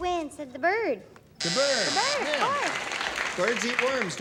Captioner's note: buzzer; applause